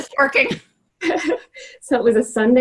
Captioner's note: laughing